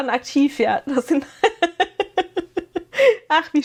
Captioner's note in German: gelächter